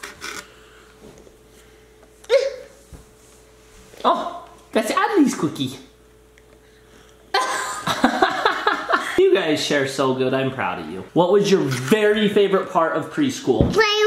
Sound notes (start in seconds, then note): 7.4 laughing